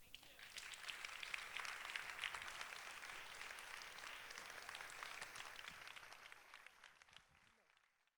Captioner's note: applause